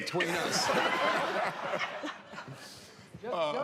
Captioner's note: laughter